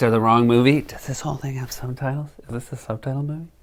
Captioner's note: whispering